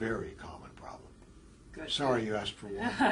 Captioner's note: laugh